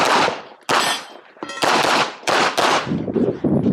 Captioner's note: gunshots banging; targets pinging; wind howling